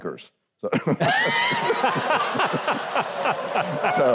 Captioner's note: all laugh